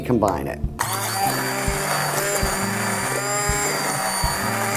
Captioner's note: buzzing, mixing